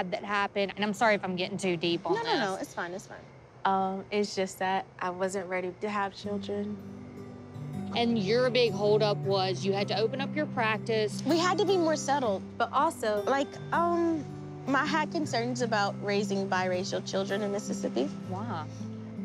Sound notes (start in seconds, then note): none